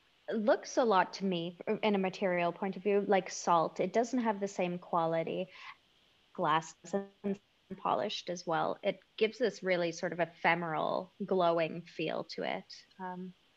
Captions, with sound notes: looks a lot to me, in a material point of view, like salt. It doesn't have the same quality glass [audio cutting] polished as well. It gives this really sort of ephemeral, glowing feel to it